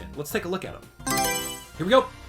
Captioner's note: Mario Selection Sound